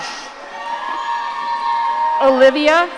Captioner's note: audience cheering